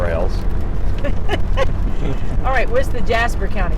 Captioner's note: laughs